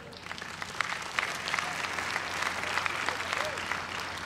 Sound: applause

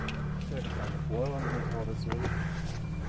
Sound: breathing heavily

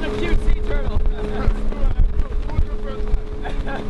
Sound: laughter

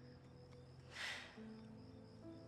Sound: sighs

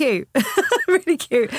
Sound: laughing

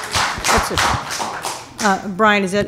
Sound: applause

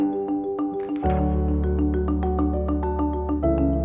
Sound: gentle music; slide flips; gentle music

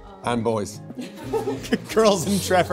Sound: laughing

